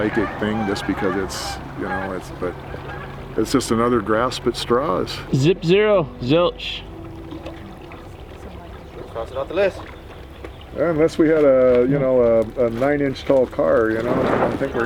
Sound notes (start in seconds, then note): 7.4 distant chatter